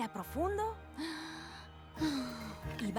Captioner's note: inhale